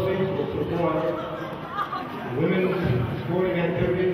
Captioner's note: murmurs